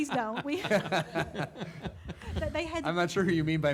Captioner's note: laughs